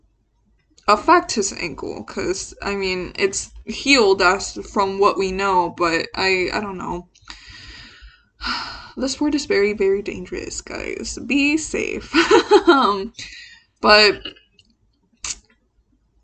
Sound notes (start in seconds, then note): 8.0 sighs; 12.1 laughs